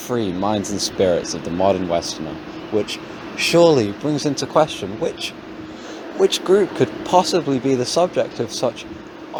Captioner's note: gasp